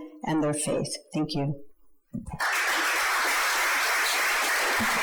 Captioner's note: audience applauds